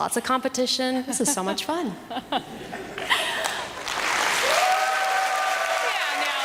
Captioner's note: applause